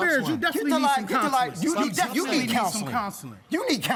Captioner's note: angry chatter